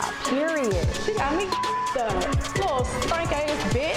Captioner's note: beep